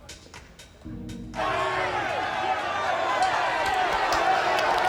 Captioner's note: indistinct shouting